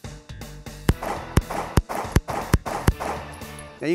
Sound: gunfire

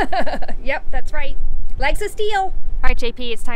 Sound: laughs

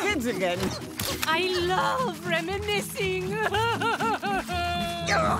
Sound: crying

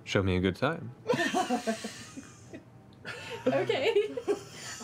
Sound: nervous laughter

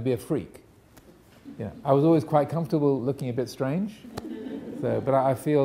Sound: audience laughing

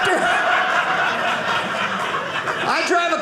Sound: audience laughing

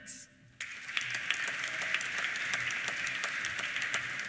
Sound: applause

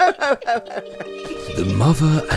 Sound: laughter

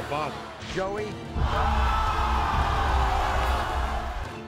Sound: audience cheers

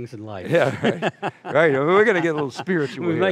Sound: laughs

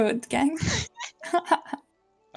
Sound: hahah

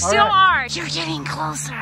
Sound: whispers

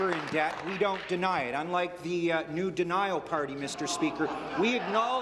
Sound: applause

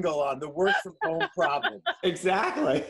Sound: laughter

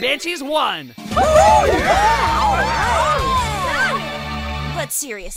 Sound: cheers

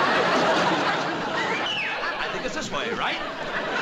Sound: whistles

